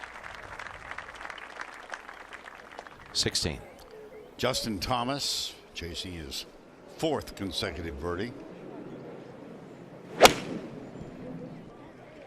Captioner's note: applause